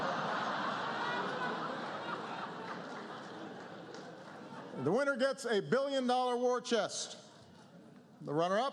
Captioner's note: laughter